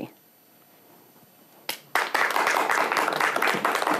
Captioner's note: applause